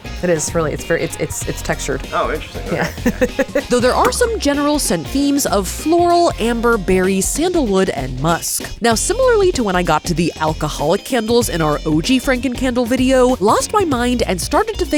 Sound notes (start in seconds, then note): 3.6 laughs